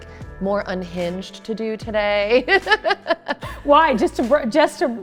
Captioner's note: laughs